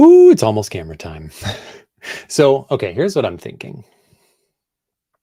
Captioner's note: chuckles